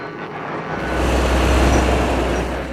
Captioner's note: backhoe groans